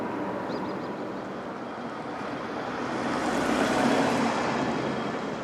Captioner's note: urban noises